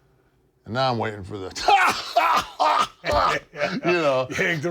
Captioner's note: laugh